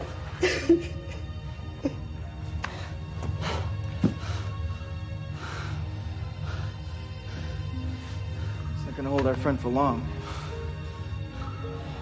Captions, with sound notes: [cries] [breaths heavily] That's not going to hold our friend for long.